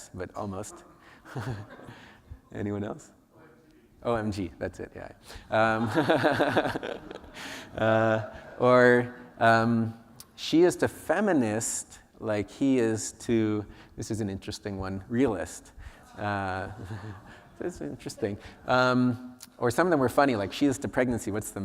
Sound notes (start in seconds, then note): 5.6 laughter; 15.7 audience reacts